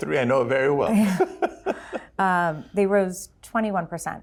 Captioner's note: chuckles